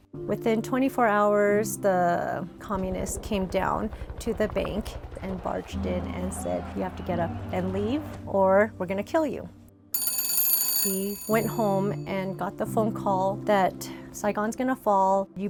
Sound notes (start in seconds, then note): 9.9 telephone Rings